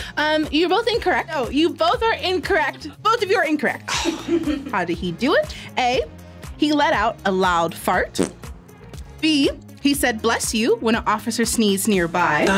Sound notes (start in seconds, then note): 4.0 sighs; 8.2 fart rips